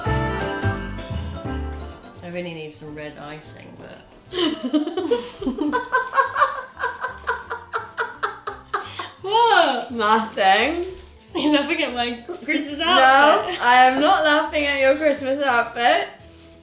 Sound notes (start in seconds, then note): 4.3 laughs